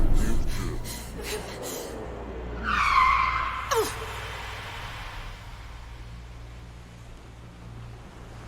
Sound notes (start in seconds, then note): 2.0 brakes screech